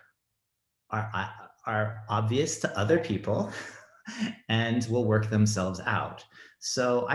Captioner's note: chuckles